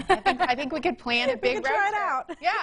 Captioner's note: laughs